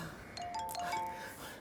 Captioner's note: phone jingles